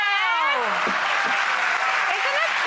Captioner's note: audience applause